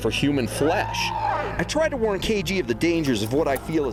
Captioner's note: screeching